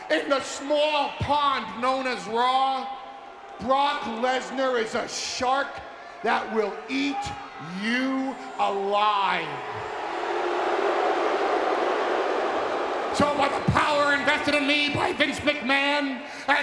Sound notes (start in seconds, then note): 10.0 audience booing